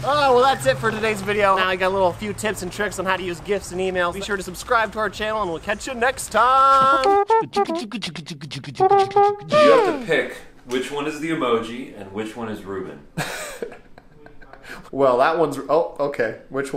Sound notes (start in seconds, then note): 6.9 upbeat music; 13.2 laughing